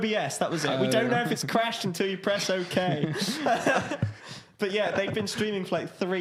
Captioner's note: laughing